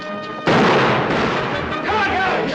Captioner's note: gunshots